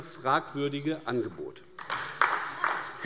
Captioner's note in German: Beifall AfD